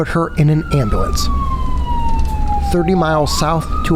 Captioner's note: siren wailing